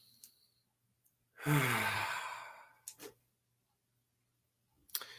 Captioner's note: deep exhales